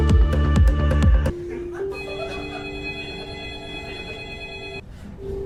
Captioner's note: doorbell